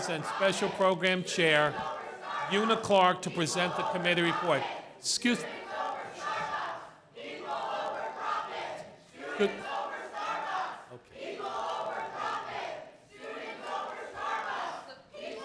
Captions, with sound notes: and special program chair Una Clarke to present the committee report. Excuse (students chanting) okay (students chanting)